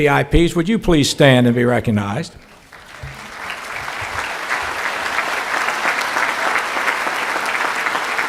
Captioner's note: clapping